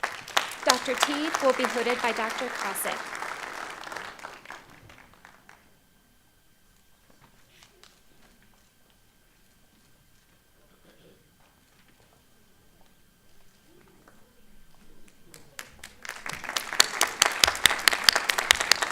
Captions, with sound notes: Dr. Teed will be hooded by Dr. Krawczyk. (Applause)